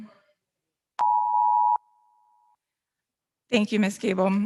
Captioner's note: timer beeping